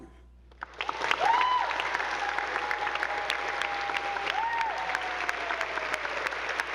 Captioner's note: attendees applauding; audience whooping